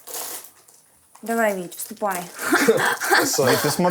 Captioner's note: laughs